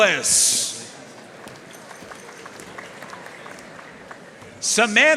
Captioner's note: audience cheering and applauding